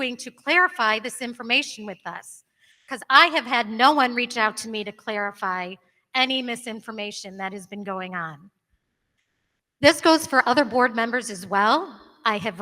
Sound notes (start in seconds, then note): none